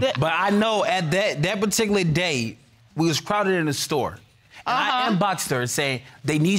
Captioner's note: stammers